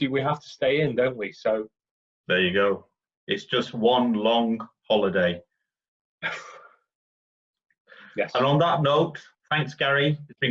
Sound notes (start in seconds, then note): 6.3 sighs